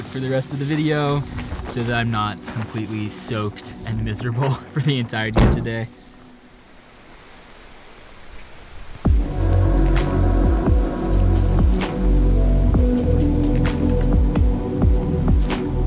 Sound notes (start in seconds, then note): 5.3 car boot closing; 6.2 rain falling; 9.1 intense upbeat music